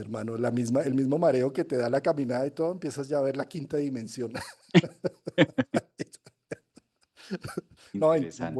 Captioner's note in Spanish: risas